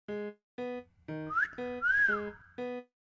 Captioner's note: whistles